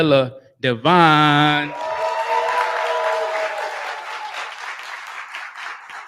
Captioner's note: cheering